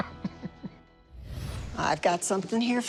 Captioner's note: laughs